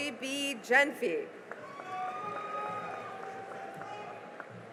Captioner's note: cheering and applause